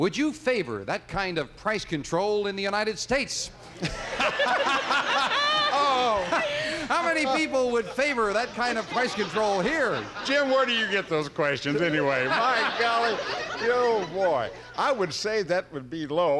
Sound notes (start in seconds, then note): 3.7 laughter